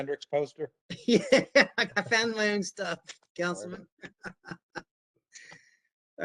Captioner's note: laughter